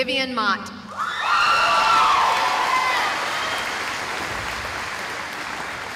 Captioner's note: cheering